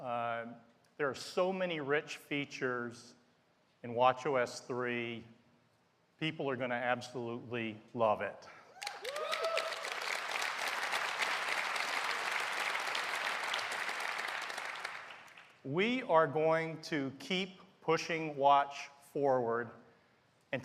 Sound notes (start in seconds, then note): 8.4 applause